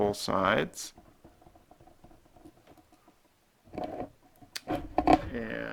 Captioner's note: writing